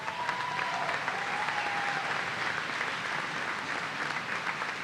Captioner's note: applause